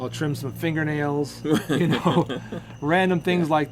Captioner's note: both laughing